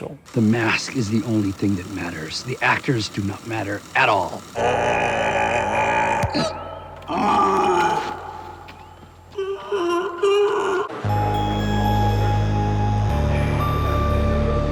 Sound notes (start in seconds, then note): 4.5 Smash-Mouth groans; 7.1 Smash-Mouth yells; 11.7 eerie music